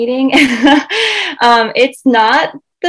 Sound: laughs

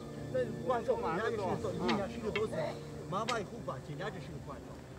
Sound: archeologists chattering

